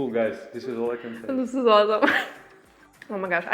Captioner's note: laughs